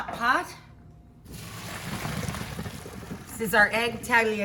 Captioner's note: water splashing